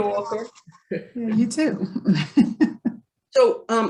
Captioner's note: participants laughing